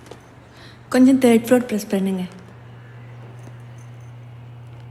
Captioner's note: in Tamil